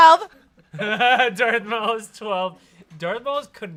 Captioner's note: laughs